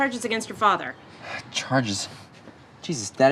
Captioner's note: sighs